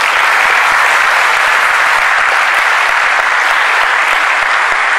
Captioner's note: applause